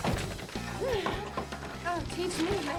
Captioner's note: moans